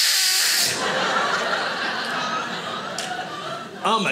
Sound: loudly mimics whizzing; audience laughing

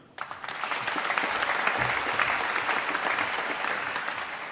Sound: applause

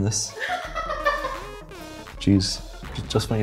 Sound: laughs

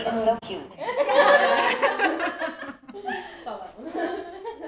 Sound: laughter

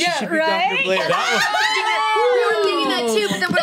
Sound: overlapping chatter

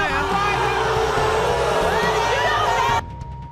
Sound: crowd jeers

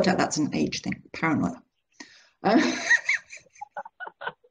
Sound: laughing

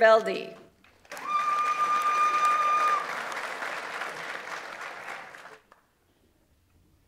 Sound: audience applauds; audience member cheers

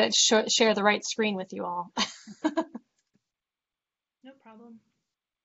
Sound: laughs

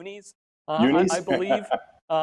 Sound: laughs

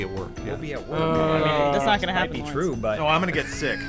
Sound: groaning

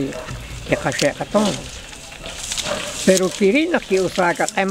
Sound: corn stalks rustling

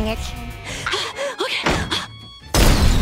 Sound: panting

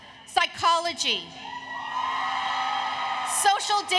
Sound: applause, Cheering

